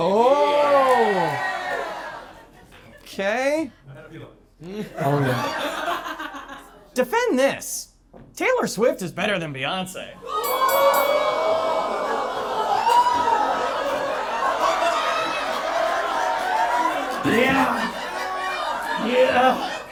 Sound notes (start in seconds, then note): 11.0 audience laughing